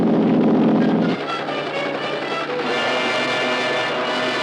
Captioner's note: helicopter whirring